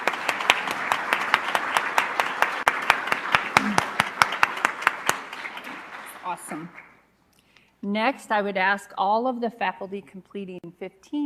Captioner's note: applause